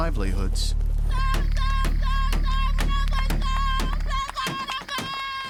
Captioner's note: yelling in world language